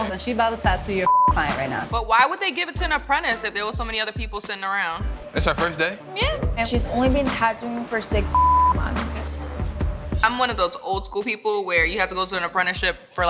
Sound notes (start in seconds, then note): 1.0 beep; 8.2 beep